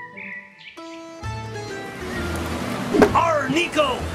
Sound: birds chirping; waves crashing

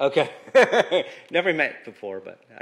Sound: laughter

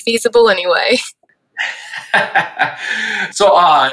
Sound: laughing

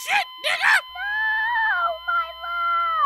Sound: sobbing

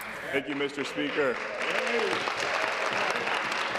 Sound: applause

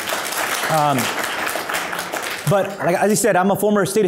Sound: audience applause

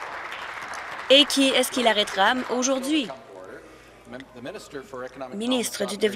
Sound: applause

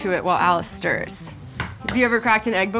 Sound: egg tapping

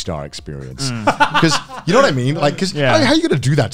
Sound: laughing

